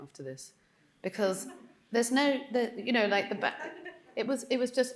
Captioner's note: audience chuckling